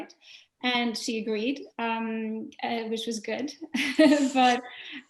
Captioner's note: laughing